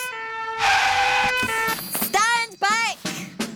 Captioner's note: siren blaring